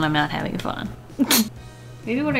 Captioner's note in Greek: Σύντομο γέλιο